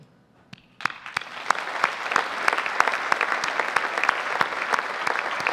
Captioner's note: audience applauding